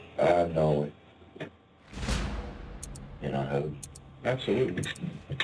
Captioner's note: dramatic music playing; timer ticking